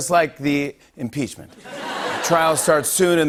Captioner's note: laughter